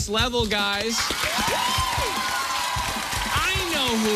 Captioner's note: cheers and applause